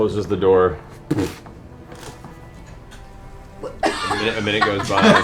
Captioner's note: laughter